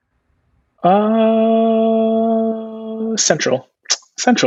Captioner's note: humming